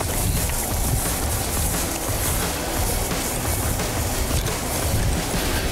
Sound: grass rustling; rock music

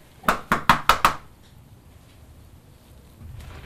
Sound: loud knocking

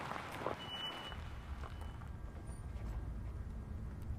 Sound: breaks squeaking

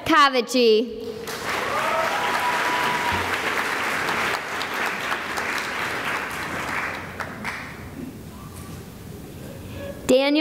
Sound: cheering and applause

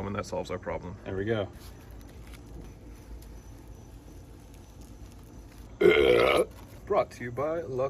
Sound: loud horrible burp

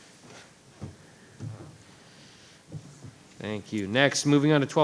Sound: chairs clattering

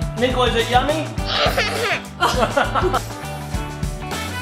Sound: laughing

